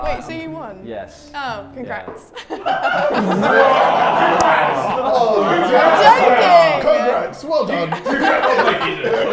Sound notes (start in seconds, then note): 2.4 everyone laughs